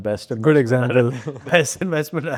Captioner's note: chuckles